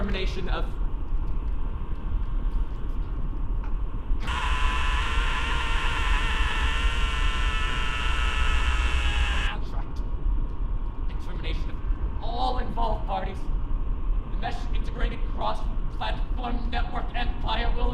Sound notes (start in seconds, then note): 4.2 man screaming